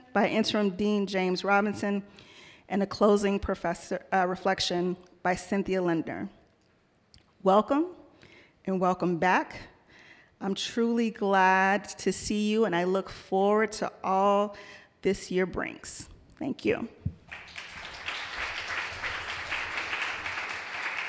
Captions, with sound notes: by interim Dean James Robinson and the closing reflection by Cynthia Lender. Welcome and welcome back. I'm truly glad to see you and I look forward to all this year brings. Thank you. (audience applauding)